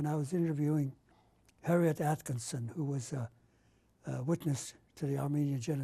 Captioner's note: none